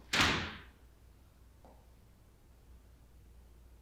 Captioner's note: door slamming